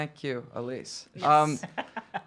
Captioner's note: laughing